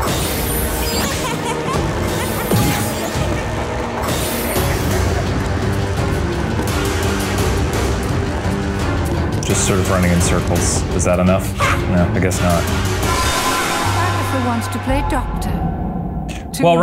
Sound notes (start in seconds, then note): 0.9 Agatha laughing; 4.6 tense music